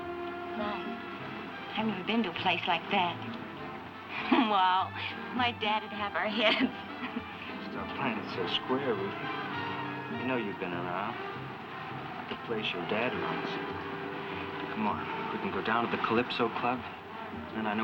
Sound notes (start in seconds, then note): 6.1 laughs